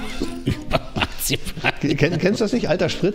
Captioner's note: laughs